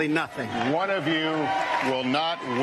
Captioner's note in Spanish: aplausos